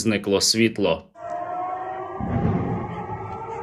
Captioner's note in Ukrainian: звук повітряної тривоги; вибух